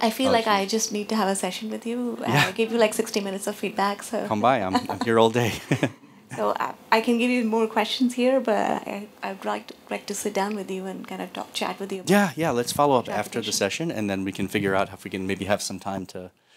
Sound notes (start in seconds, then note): 4.6 laughter